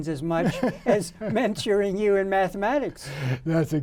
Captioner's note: man laughing